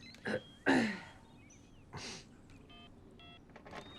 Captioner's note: clears throat; phone beeping